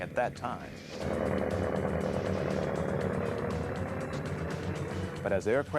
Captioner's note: engine rumbling